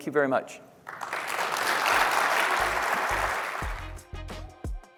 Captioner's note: applause